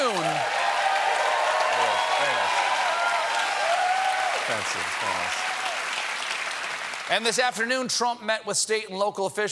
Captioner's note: applause